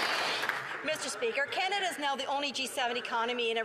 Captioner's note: some Applause